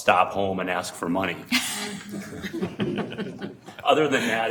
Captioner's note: everyone chuckling